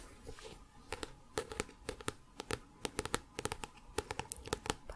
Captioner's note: tapping on book